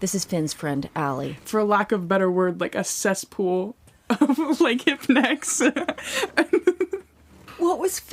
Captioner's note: laughs